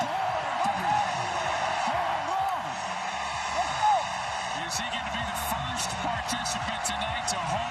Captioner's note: cheering